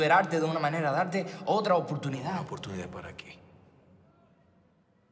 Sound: none

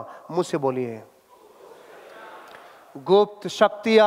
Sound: public chattering

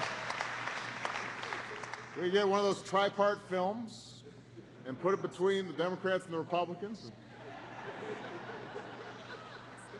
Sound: laughter

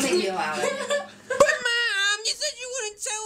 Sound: laughs

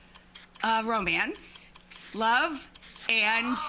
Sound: clock ticking; audience shouting

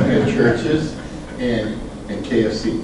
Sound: group giggles

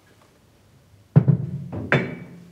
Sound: dull knocking

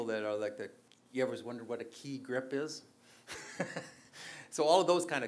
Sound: laughs

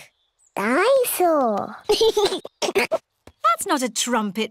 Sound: giggles

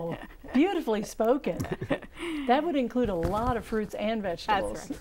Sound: laughing

